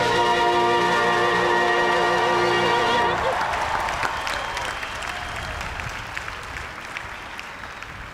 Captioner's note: cheers and applause